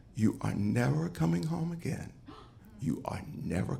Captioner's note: none